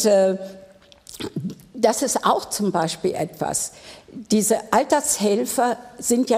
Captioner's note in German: none